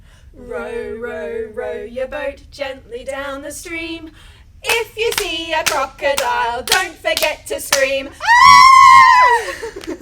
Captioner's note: aaaahhhh!